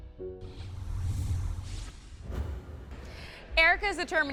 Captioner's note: scene whooshing